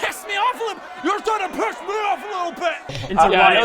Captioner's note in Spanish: multitud enojada